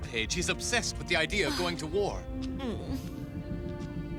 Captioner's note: sighs